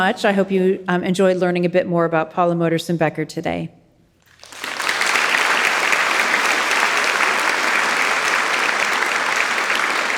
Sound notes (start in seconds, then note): 4.3 audience applauding